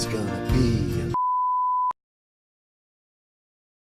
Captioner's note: beeping